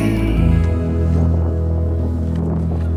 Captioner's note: wind buffeting